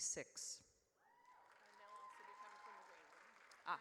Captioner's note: audience cheers